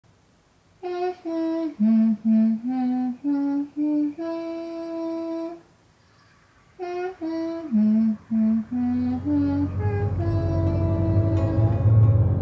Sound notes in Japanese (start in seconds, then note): 0.8 鼻歌